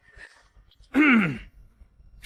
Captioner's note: cough, cough